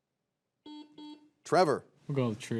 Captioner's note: buzzer beeps